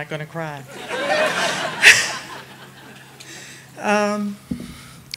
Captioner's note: audience laughing